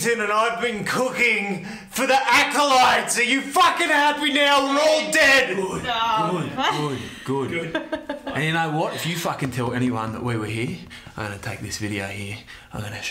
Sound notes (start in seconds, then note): 7.7 woman laughing